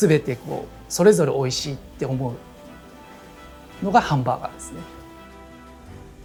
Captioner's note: continues speaking Japanese